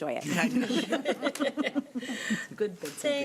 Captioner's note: group chuckling